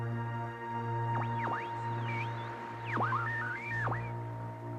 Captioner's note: berkedip statis